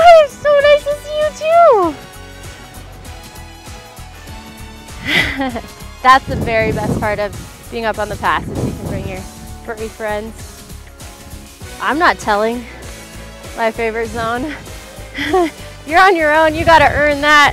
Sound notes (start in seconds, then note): 5.0 laughs; 15.1 laughs